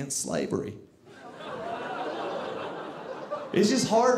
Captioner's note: audience laughing